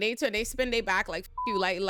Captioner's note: beep